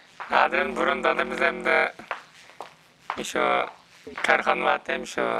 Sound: speaks in foreign language

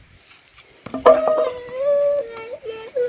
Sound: little one is crying

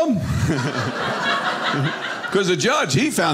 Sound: audience laughing

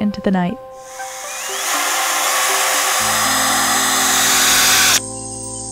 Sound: drill; crickets chirping

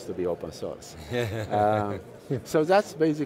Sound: laugh

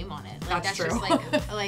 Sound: laughs

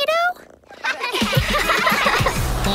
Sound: laughing

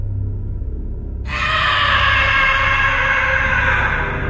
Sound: screams

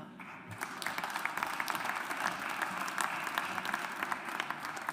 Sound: audience applauds

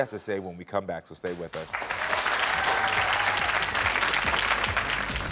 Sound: audience applauding

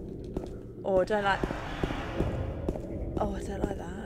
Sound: game - weird sound

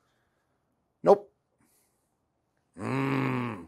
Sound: growls

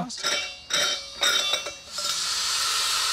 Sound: valve clanking; gas hissing

